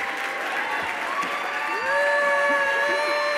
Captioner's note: clapping